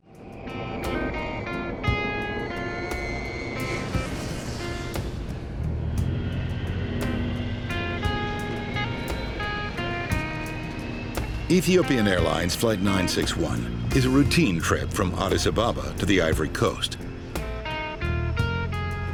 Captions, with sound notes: (gentle music) (airplane engine whirring) Ethiopian Airlines Flight 961 is a routine trip from Addis Ababa to the Ivory Coast.